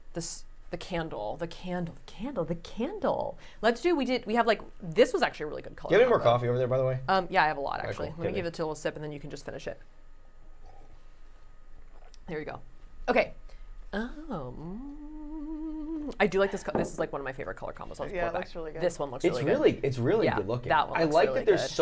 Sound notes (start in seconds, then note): 3.7 stammering; 14.0 humming